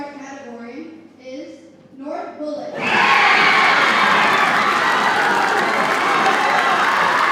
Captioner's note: audience cheers and applauds